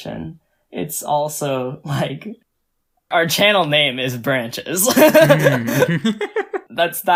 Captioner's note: laughs